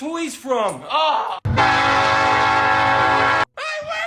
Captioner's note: NS SD70ACe HORN